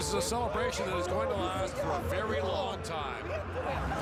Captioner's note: cheering